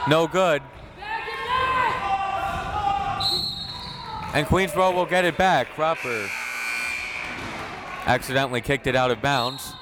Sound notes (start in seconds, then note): 1.0 crowd members shouting; 3.2 whistle tweeting